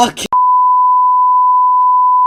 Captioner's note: beep